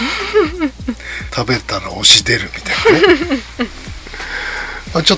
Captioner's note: laughs